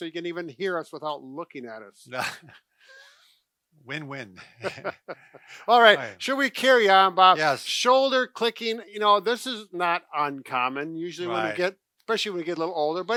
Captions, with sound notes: So you can even hear us without looking at us. - (chuckles) Win-win. (both chuckle) - All right. Should we carry on, Bob? - Yes. - Shoulder clicking, you know, this is not uncommon. Usually when you get, especially when we get a little older.